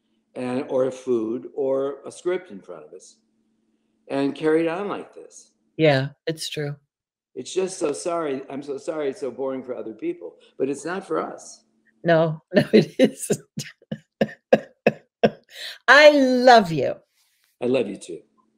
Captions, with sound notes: and or a food, or a script, in front of us and carried on like this? - Yeah it's true. It's just so sorry, I’m so sorry it's so boring for other people, but it's not for us! - No, no it isn't (LAUGHTER) I love you!